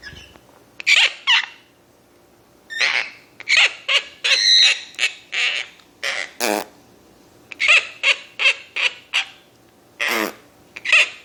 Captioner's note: fart sound